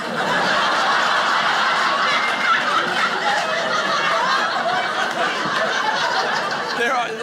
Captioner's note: audience laughing